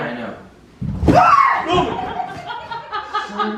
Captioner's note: screaming; laughter